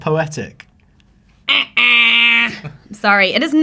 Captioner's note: imitates error sound